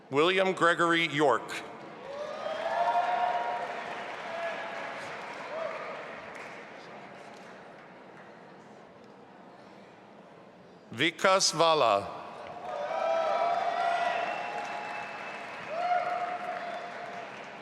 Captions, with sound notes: William Gregory York. (audience applauding) Vikas Vala. (audience applauding and cheering)